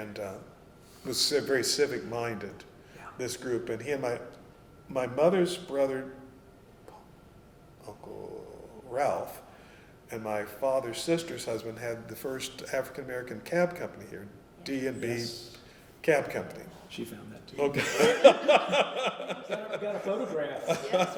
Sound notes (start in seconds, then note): 17.7 laughter